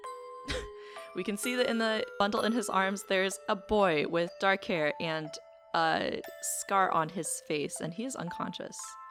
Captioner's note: laughs